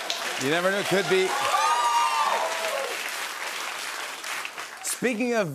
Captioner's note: cheers and applause